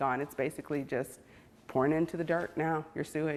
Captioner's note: gasp